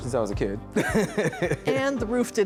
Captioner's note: chuckles